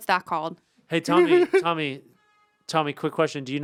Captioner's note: Anthony laughs